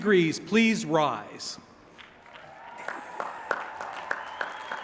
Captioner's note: applause